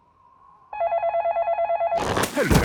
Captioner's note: dial tones beeping; phone ringing